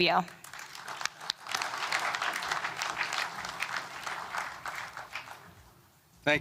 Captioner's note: applause